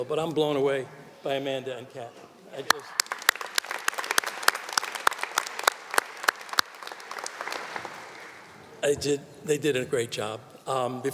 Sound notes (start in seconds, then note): 2.6 audience applauding